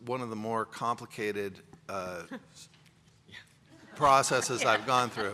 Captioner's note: laughs; laughter